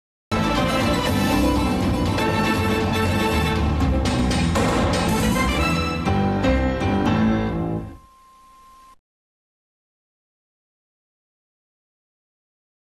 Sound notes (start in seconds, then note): 0.3 dramatic music plays; 9.2 silence